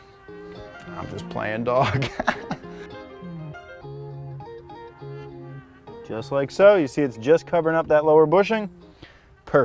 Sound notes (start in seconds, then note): 1.8 laughs